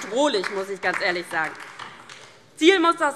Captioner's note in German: Beifall DIE LINKE